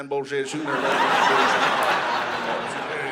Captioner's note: audience laughing